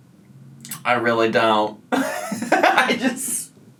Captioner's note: laughs